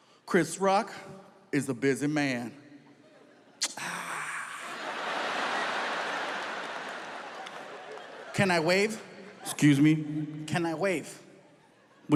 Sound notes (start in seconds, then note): 3.7 imitates groaning; 4.4 audience laughs